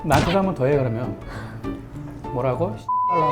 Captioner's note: haha